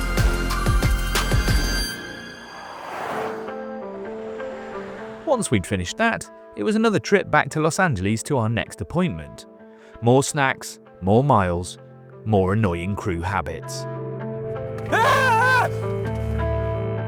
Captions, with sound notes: Once we'd finished that, it was another trip back to Los Angeles, to our next appointment. More snacks, more miles, more annoying crew habits. (SCREAMS)